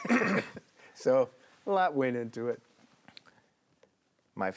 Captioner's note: laughs